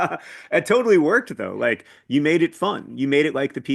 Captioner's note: laughs